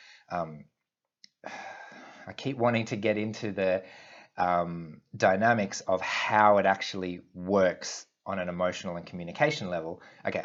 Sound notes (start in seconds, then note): 1.4 sighs